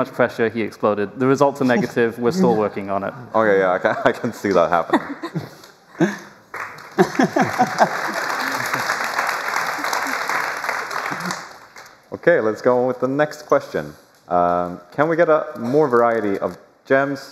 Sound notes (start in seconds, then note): 4.9 laughter; 6.5 applause